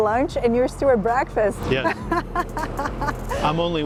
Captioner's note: laughs